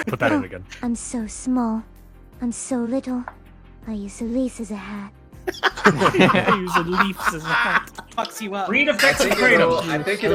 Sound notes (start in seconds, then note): 5.4 laughing; 5.9 copying the gentle inflection